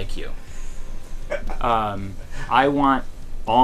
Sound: laughter

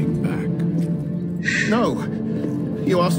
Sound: exhale

